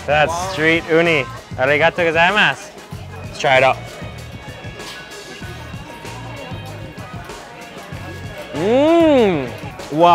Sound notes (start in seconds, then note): 1.7 speaks in foreign language; 4.2 funky music